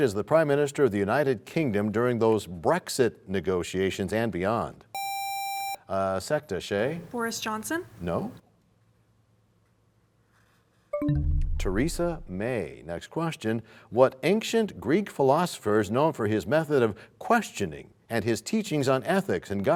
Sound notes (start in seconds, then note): 11.6 bell chimes, time expires